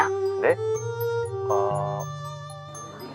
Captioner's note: murmuring sound